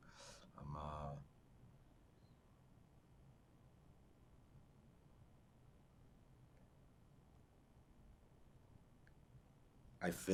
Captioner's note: pauses 8 seconds